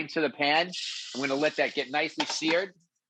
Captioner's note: steak sizzles in pan